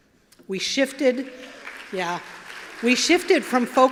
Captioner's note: applause